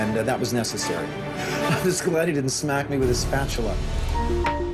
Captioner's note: laughing